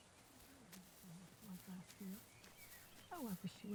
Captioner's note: birds singing; group murmuring